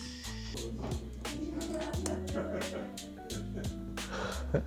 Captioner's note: chef and staff laugh